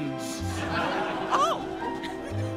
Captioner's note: audience laughing